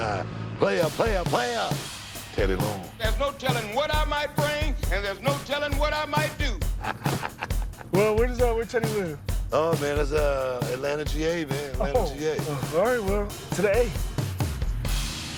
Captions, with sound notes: player, player, player-- Teddy Long. There's no telling what I might bring, and there's no telling what I might do. [laughs] Well, where does Teddy live? Oh, man. It's Atlanta, G-A, man. Atlanta, G-A. Oh. All right, well, today.